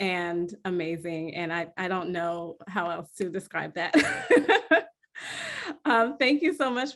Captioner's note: laughs